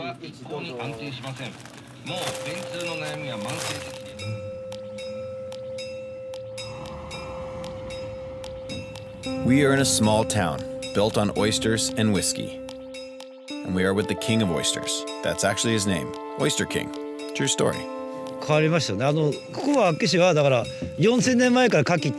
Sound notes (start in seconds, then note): 0.2 man speaking in foreign language; 4.1 bell tolling; 6.6 car speeding; 18.6 man speaking Japanese